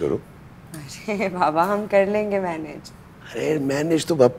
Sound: giggles

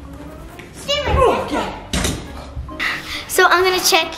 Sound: shouts

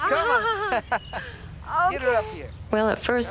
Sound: laughter

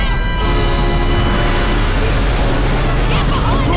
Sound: troopers shouting

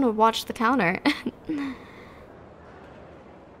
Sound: soft laugh

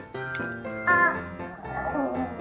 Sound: squawk

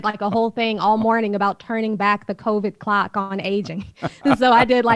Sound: Sadhguru laughs

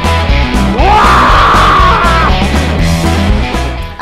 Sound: shouts

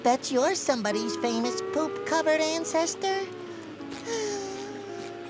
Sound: sighing

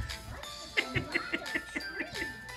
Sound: laughing

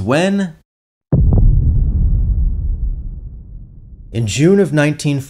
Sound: artillery noise

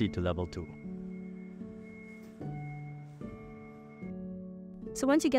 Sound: beeps; gentle music

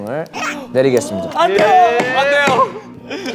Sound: players screaming

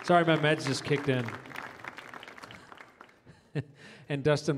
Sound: audience applauds

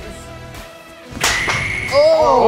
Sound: cheese exploding

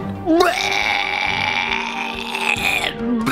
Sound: retching

